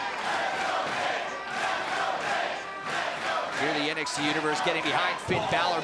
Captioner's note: crowd cheering